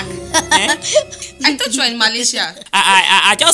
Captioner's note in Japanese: 笑い声